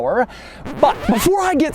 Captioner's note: record scratch